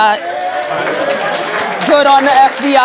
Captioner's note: applause